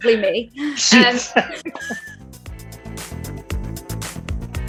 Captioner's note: Ncuti laughs